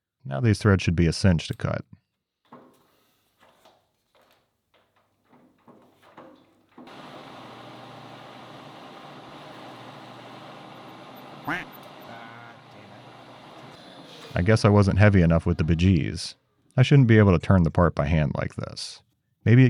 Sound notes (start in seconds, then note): 7.4 machine whirring; 11.4 skull quacking